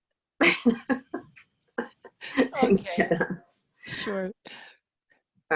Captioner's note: laughs